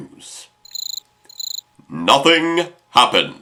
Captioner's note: cricket